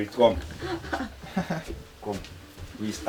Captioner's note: laughs